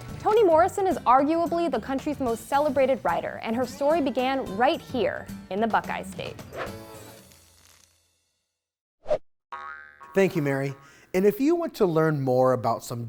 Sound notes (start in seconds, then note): 6.7 screen whooshing